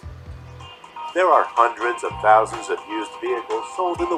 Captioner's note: voiceover